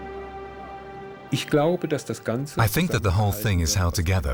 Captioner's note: man speaking german